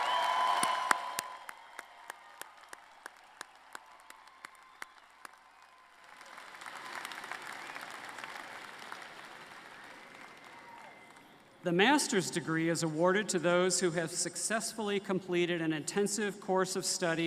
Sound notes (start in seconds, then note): 0.0 applause